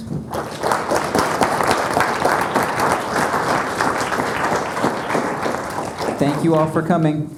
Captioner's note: applause